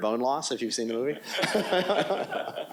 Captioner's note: laughs